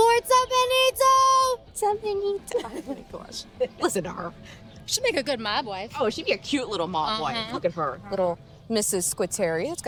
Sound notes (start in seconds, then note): 0.2 Taffy speaking in Italian; 2.1 Moe speaking in Italian